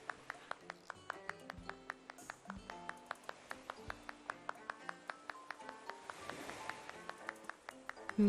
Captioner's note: clap Clap